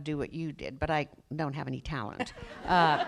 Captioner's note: laughter